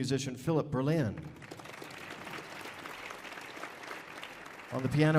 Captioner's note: audience applauding